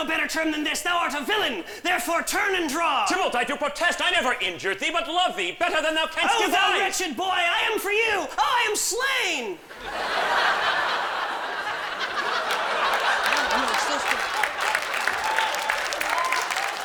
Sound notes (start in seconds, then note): 9.7 laughter; 11.7 scattered applause